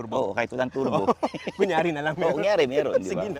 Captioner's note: laughs